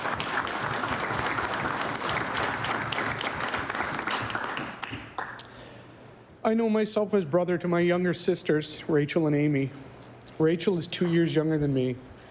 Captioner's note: applause